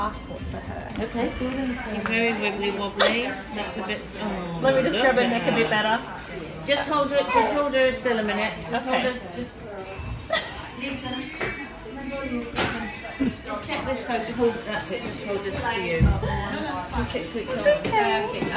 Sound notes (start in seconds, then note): 10.2 laughter